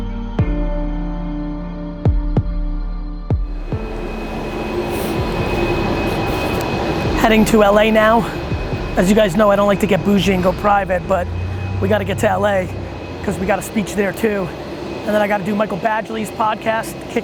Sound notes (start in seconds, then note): 3.9 engine hums